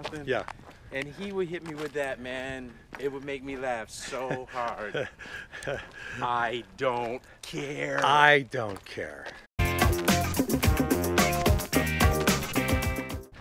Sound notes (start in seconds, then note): 4.0 laughs; 9.6 funky guitar music